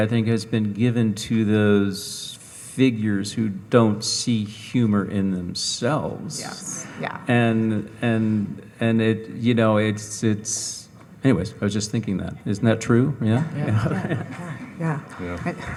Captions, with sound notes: I think has been given to those figures who don't see humor in themselves. - Yes. Yeah. - And it, you know, it's... Anyways, I was just thinking that, isn't that true? Yeah? (audience chuckling) - Yeah.